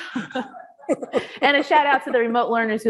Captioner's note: both laughing